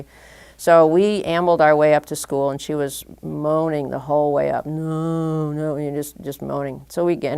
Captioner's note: moaning